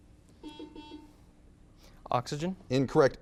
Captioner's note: buzzer beeps